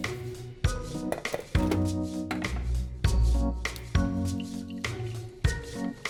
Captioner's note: coffee preparation noises